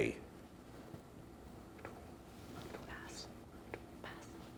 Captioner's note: whispering